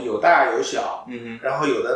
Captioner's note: nonverbal grunt as interjection